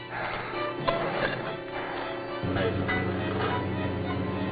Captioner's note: breathing heavily